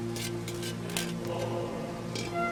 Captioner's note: metal scraping